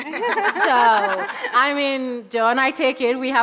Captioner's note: audience laughing